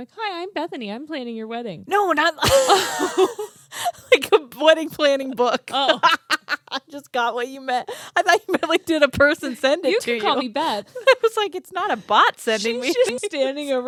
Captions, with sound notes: "Hi, I'm Bethany, I'm planning your wedding." - No, not like. (both laughing) Like a wedding planning book (laughs). - Oh! - I just got what you meant. I thought you meant like did a person send it to you? - You can call me Beth. - I was like, "It's not a bot sending me." - She should be standing